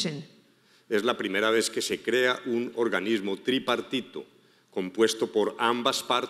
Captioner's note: speaking in foreign language